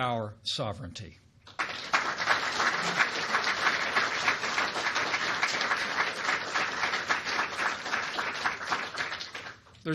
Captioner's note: applause